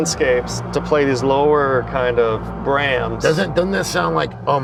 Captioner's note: ominous sound